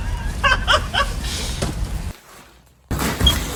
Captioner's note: laughs